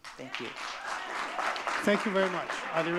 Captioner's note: audience clapping